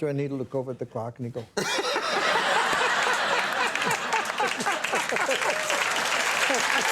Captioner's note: Conan and audience laughing; audience applauding